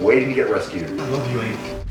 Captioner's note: earthquake noises